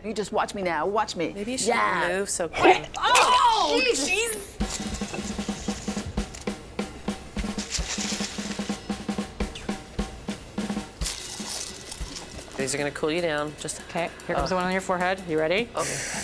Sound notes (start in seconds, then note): 2.6 gagging; 3.9 lively drum solo